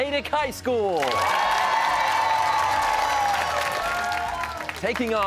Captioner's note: cheers and applause